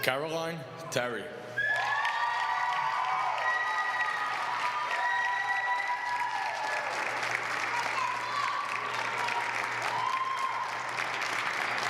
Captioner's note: applause